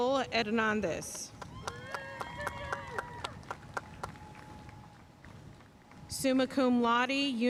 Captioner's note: audience cheering and applauding